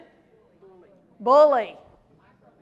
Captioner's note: crowd speaks